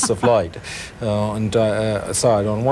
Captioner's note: laughing